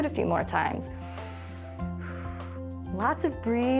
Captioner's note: inhales and exhales